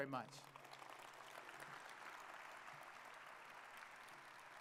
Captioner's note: audience applauding